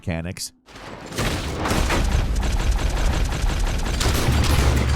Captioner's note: gunfire banging